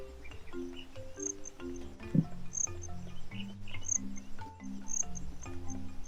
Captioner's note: insects singing